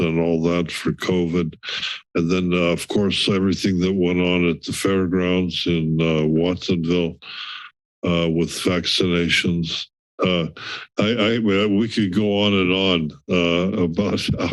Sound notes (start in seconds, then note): 7.2 inhales